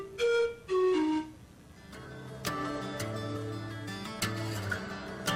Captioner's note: cheery electronic beeping